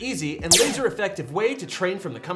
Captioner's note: laser fires